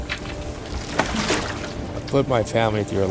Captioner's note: splashing